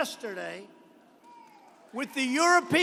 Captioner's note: applause